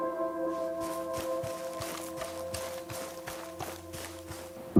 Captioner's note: melancholic music; footsteps running